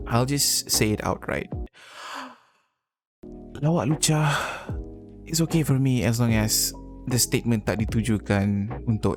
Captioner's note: inhales